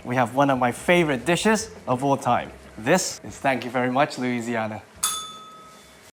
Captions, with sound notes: we have one of my favourite dishes of all time. This is "Thank you very much, Louisiana." [bell rings]